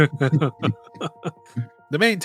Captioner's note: laughter